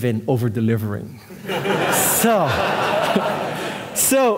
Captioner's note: audience laughing